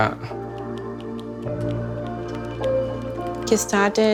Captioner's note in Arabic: نقر على لوحة المفاتيح